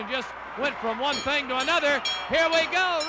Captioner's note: bell rings